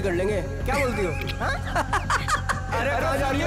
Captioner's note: Laughs